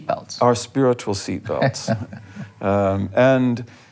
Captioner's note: laughing